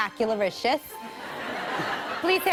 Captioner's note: laughter